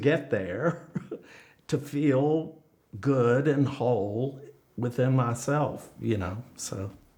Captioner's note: laughs